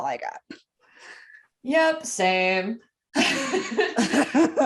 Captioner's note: uncomfortable laughter